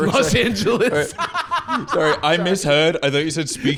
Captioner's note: laughing